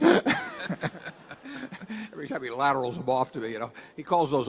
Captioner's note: laughter